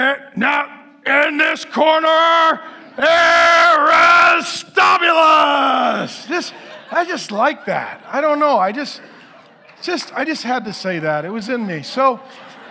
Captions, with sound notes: "It now, in this corner Aristobulus!" (congregation laughing) This I just like that, I don't know, I just, I just had to say that, it was in me, so,